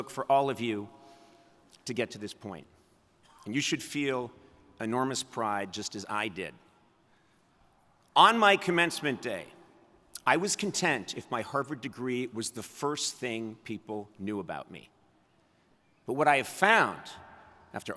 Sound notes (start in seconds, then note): none